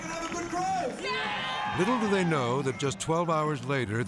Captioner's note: crowd